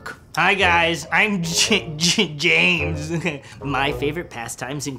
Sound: laughs

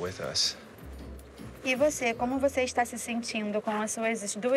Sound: speaking portuguese

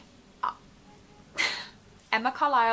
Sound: laughs

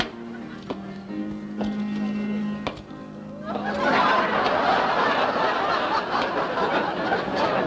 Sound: piano music playing; audience laughter

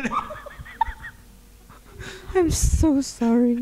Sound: laughing

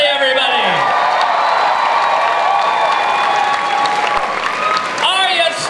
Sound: cheers, applause

